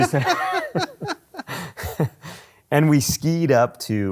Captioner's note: both laugh